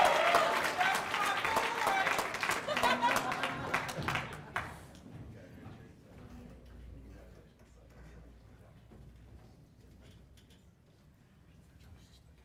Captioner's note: cheers and applause